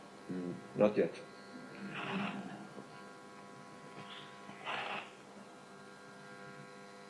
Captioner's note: audience laughing